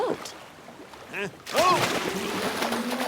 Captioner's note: splash